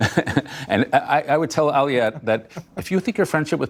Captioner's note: laughter